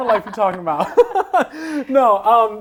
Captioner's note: laughs